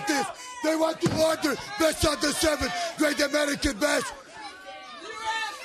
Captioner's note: crowd chatter